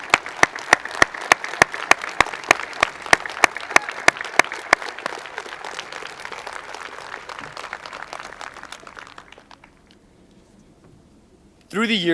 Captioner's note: applause